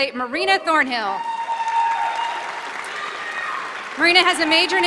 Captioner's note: applause